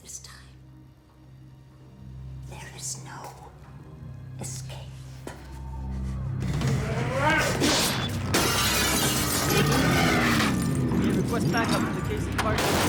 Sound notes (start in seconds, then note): 6.8 grunts; 8.2 glass smashes